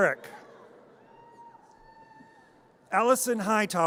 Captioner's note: audience cheers